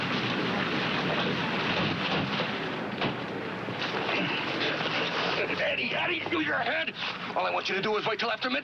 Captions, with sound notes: (GRUNTS) Eddie, Eddie, use your head! All I want you to do is wait till after midnight.